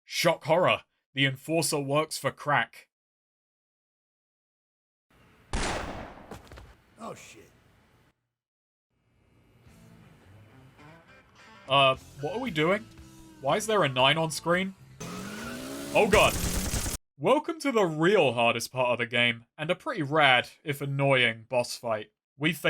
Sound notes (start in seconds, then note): 5.5 gunshot; 14.2 motorcycle revving